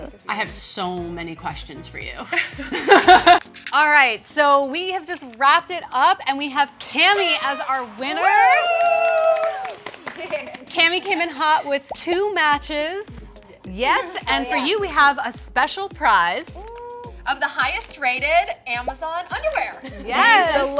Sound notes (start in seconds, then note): 2.7 all laugh; 8.2 all clapping